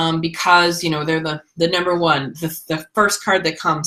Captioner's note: none